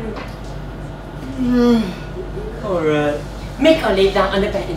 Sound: yawns

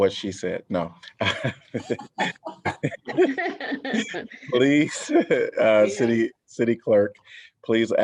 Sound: laughter

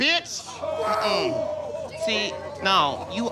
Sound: crowd ohing

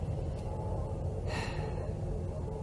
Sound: sigh

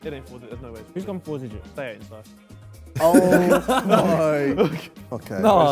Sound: laughs

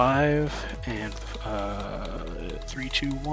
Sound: spam clicks intensify

